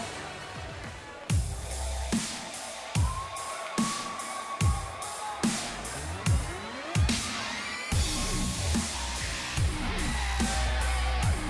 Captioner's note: crowd cheering